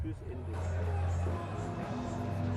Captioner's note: fairground noise